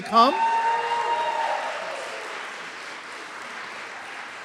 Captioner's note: applause